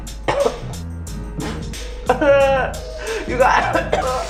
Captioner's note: man coughing and choking